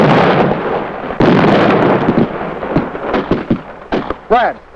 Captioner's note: banging